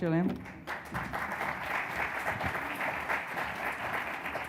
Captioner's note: audience clapping